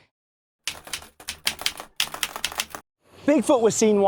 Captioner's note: keyboard keys clicking